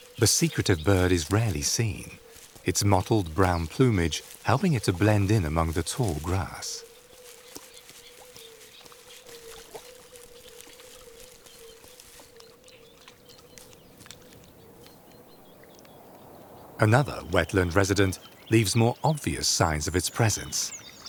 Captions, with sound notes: The secretive bird is rarely seen, it's mottled brown plumage helping it blend in among the tall grass. (birds singing) Another wetland resident leaves more obvious signs of its presence.